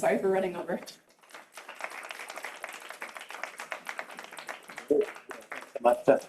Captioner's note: audience applause